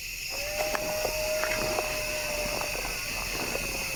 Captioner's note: animal howling